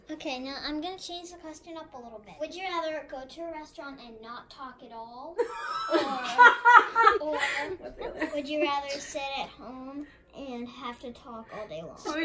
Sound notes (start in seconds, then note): 5.5 laughs